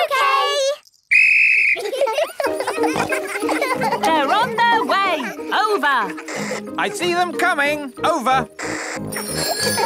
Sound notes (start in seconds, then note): 1.0 blows whistle; 1.7 giggling; 9.1 giggling and ringing bells